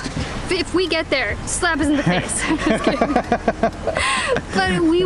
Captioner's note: laughter